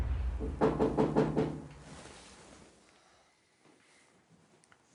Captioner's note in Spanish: Toques en la puerta